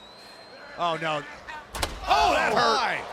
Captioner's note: body thuds